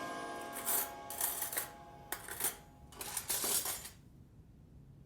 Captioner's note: music fades; utensils clattering